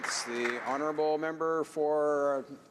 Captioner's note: some Applause